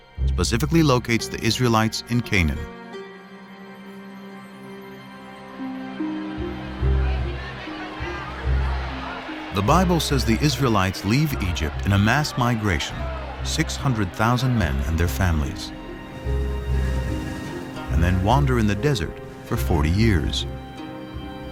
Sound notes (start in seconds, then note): 6.1 crowd clamoring